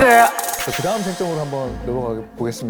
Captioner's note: moving-on sound effect